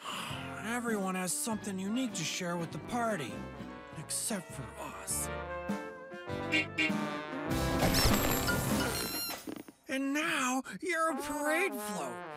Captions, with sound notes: Oh, everyone has something unique to share with the party. Except for us. (honking) (balloons squeaking) And now, you're a parade float,